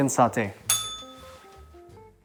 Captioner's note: bell rings